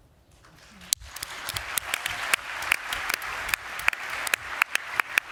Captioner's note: applause